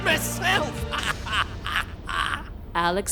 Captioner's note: Anderson laughs